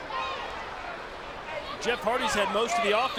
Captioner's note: audience chattering